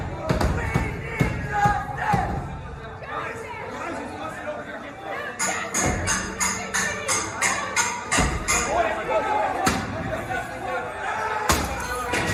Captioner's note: shouting